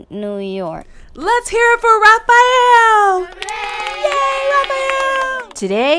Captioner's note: kids cheer